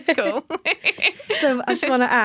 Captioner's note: laughter